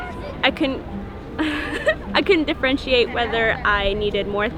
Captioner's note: laughing